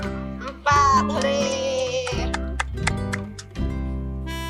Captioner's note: clap.. clap.. clap